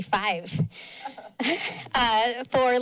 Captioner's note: laughs